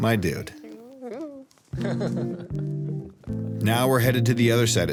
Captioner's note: laughs